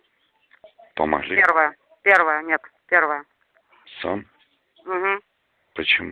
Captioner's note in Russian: говорят по-русски